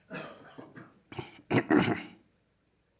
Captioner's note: much laughing; laughter